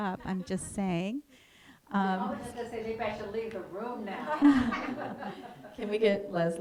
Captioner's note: laughter